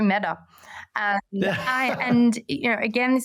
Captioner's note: laughs